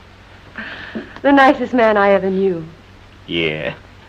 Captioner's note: sigh